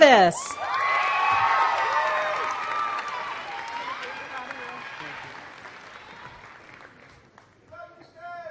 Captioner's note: applause